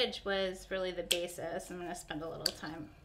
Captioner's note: scissors snipping